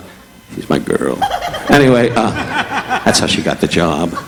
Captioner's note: audience laughing